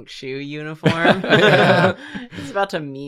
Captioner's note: laughter